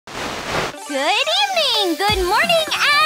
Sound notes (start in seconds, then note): 0.0 static